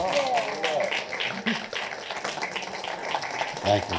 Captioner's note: applause